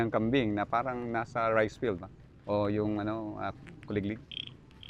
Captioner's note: crickets; mimics crickets chirping